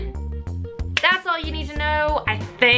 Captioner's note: clap